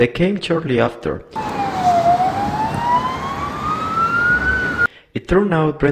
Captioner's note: police sirens sound